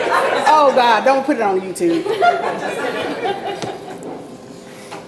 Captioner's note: audience laughs